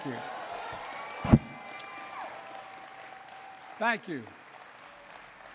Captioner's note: applause